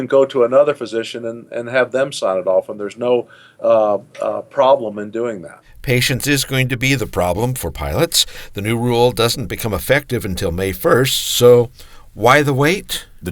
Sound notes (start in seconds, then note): 5.9 voiceover